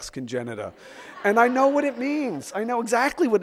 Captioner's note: audience laughs